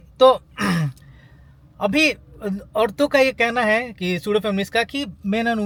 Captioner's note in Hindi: गला साफ़ करने की आवाज़